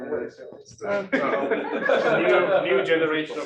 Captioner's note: laughter